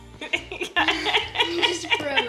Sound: laughs

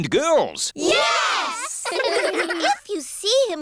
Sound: giggling

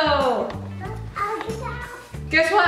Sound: baby talk

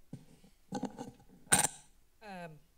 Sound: mic noises

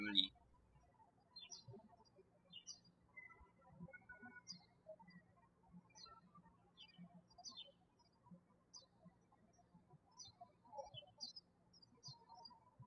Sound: birds chirping

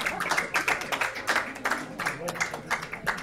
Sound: applauding

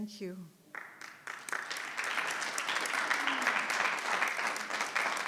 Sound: audience clapping

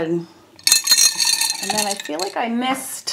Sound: brushes clang

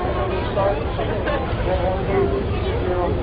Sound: chatter

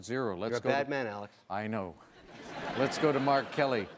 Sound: audience laughing

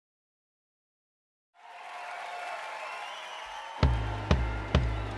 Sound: crowd cheering and clapping; upbeat instrumental music

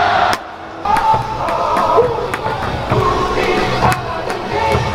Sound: crowd Cheering

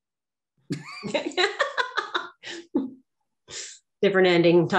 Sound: laughing

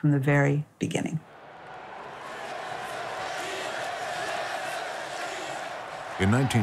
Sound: crowd chanting

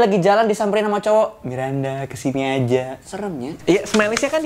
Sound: sleazy tone

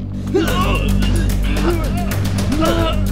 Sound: grunting

